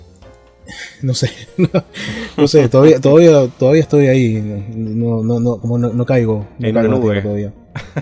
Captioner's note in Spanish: risas